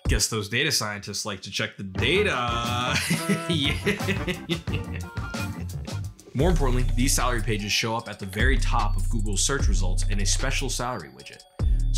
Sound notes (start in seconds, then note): 2.2 zany music playing; 2.6 laughs; 5.1 slow rhythmic music playing